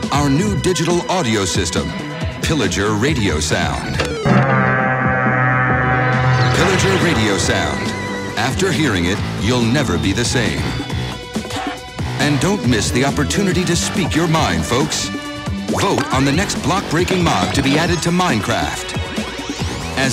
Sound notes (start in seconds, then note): 4.2 raid horn sound